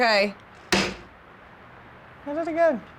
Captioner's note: clanks